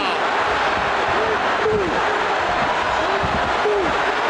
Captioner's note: audience cheering